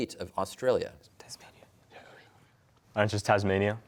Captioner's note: whispering